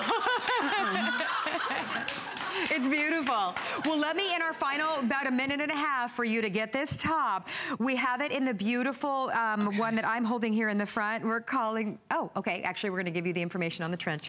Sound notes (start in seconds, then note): 0.0 laughter